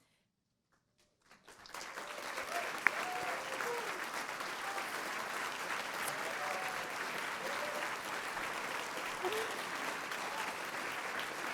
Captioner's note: applause